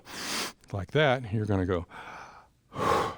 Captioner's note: inhales; exhales; inhales